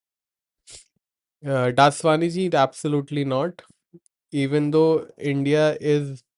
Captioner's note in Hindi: नाक से की जाने वाली आवाज़